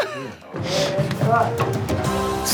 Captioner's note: laughs